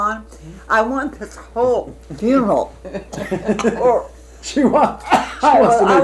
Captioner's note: coughs